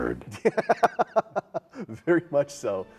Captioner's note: laughing